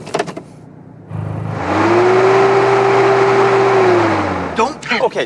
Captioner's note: revving continues